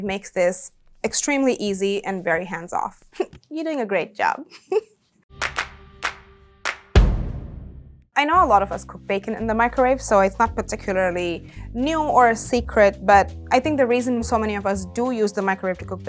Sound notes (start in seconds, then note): 5.4 hands clapping; 6.6 drum thudding